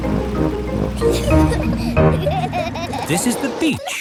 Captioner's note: children giggling